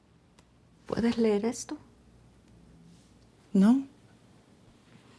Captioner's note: family speaking Spanish